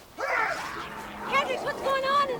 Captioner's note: growling; Hendricks yells